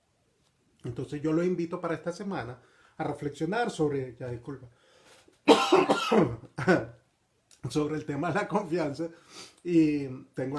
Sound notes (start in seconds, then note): 5.4 coughing